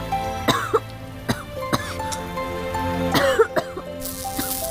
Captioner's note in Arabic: سعال